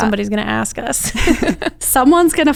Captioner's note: chuckles